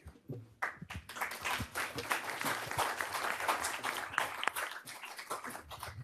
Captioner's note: applause